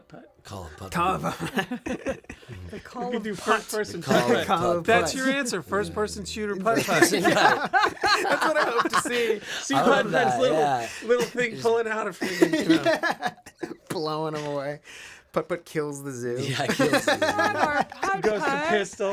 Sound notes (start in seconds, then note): 3.4 laughter; 6.7 laughter; 12.1 laughter